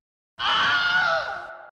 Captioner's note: Wilhelm Scream